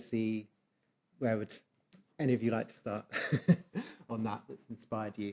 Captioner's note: chuckles